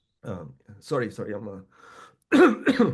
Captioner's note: coughing